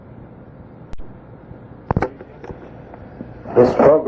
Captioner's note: tape breaks